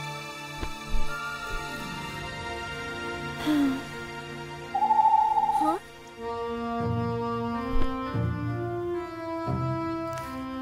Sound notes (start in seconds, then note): 2.6 mystical music continues; 3.3 Princess Oren sighs; 4.7 owl vocalizes; 6.4 adventurous music